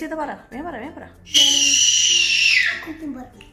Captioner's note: baby wailing